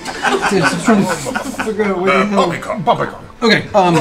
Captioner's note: laughter; Tiberius voice